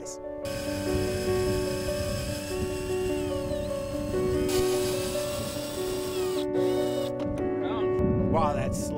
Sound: drilling

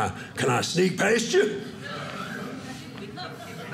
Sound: audience laughing

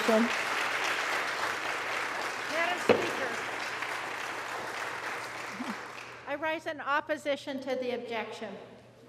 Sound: applause

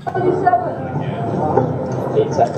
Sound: chatter

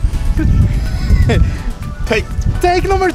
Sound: laughing

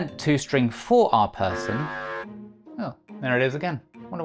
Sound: alarm

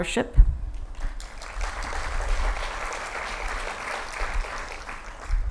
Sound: applause

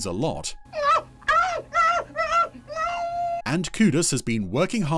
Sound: Zoonie babbling

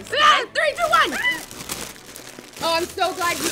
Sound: paper rustling

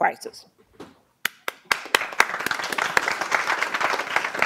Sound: applause

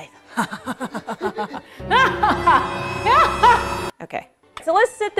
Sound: laughs loudly, dramatic music

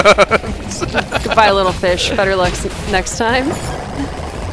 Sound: gremlin sounds

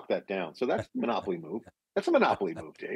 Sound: laughing

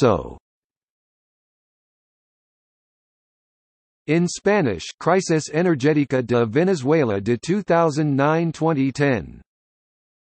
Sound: in Spanish

